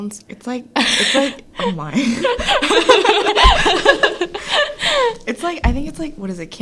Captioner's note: laughs